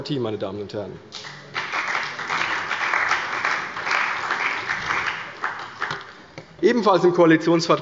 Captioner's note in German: Beifall bei der CDU und dem BÜNDNIS 90/DIE GRÜNEN